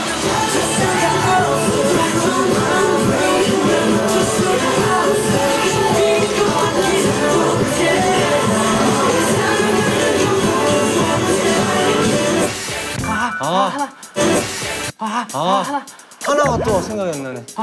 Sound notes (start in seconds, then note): 12.6 gasping at the same time